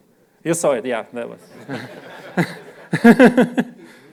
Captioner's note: laughter